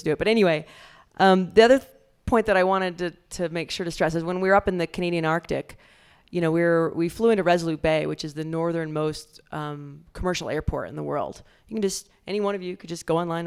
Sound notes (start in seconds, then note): none